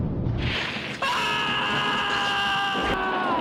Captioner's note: Marty screaming in Panic